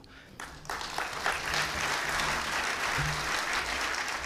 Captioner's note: audience applause